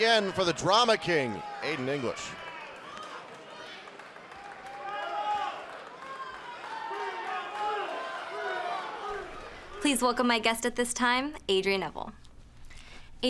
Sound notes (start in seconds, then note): 2.3 crowd cheering